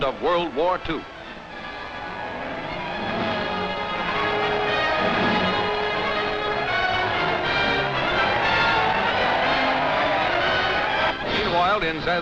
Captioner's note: cheering